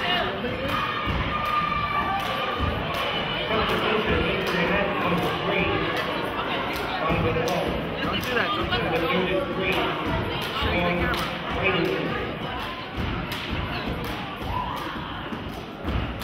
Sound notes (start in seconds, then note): 9.4 chanting and cheering